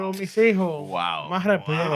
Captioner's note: non-english Speech